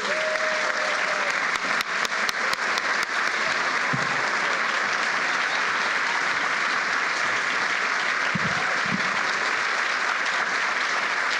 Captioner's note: applause